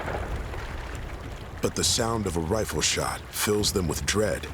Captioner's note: rifle shot in distance